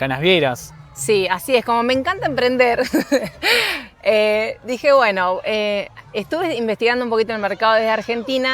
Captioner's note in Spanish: risas